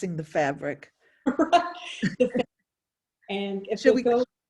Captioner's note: both laughing